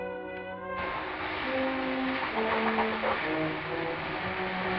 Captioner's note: sizzling